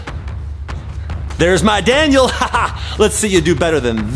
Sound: laughs

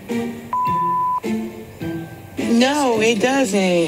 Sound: recorder beeps

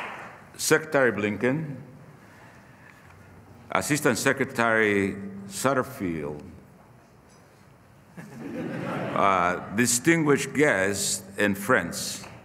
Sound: applause; laughter

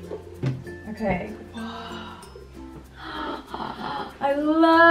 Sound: gasps

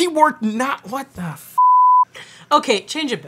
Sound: beep

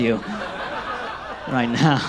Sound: audience laughs

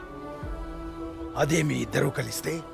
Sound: none

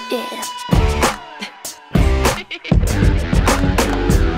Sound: laughs

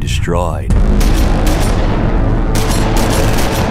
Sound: gunshots

